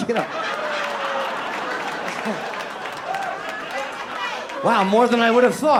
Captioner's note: audience laughs and groans